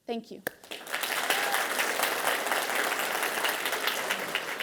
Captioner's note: audience applauding